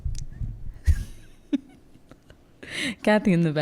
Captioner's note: laughing